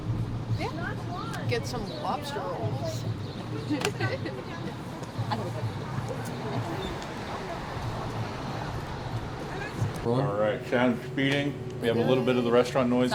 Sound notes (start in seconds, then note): 3.5 riendo; 5.2 gente charlando